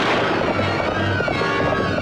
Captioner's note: gunshot